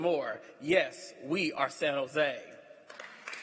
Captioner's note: applause